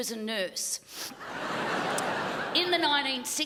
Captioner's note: crowd laughs